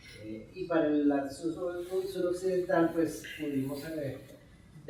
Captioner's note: speaking in Spanish